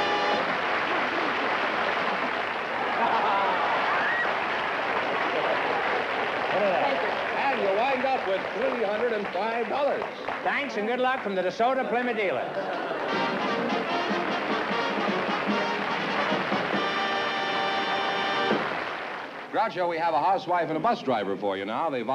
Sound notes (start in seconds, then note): 0.2 applause; 13.0 upbeat music; 13.5 applause